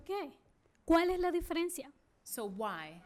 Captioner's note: speaking spanish